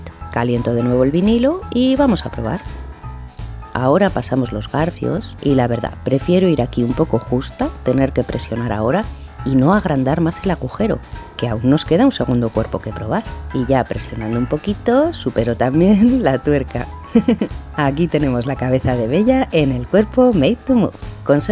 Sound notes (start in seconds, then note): 17.1 chuckle